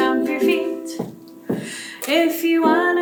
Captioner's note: feet stomp